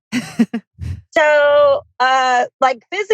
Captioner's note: laughs